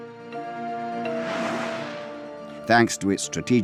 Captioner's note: air whooshing